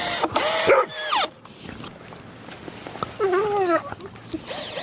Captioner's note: drilling whirring; dog barks; dogs whimpering; drill whirring